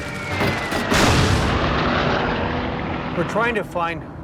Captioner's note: gunshot fire